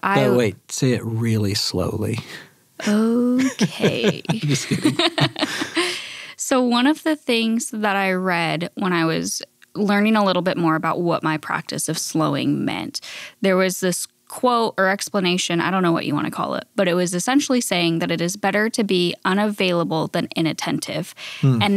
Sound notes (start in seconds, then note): 3.3 laughs